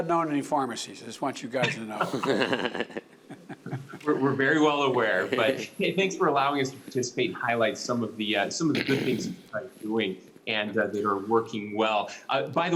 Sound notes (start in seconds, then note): 1.9 laughter